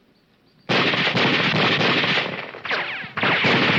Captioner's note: guns firing